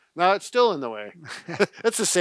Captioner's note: both laugh